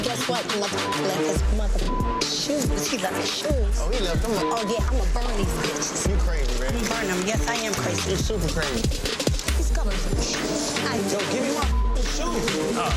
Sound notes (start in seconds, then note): 1.8 beep; 4.3 beep; 11.6 beep